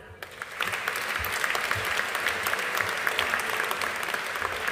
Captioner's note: audience applauding